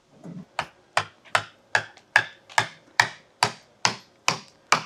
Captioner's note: rhythmic tapping